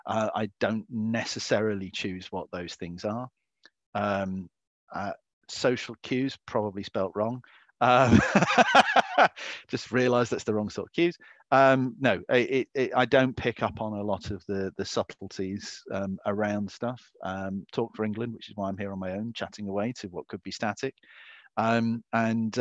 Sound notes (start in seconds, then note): 7.9 laughs